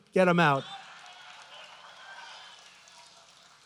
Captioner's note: applause